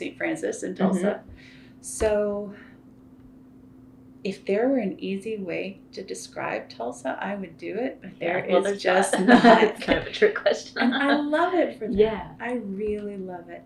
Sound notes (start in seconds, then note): 8.0 laughs